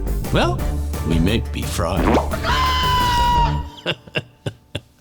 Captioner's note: chick screaming; laughing